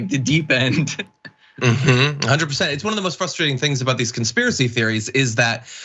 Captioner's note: laugh